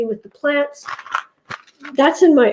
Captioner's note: paper shuttering sound